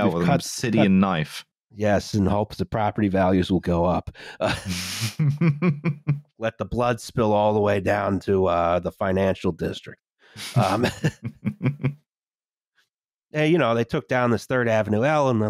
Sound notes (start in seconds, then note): 4.0 chuckles; 10.4 laughter